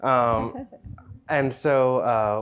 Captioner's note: chuckles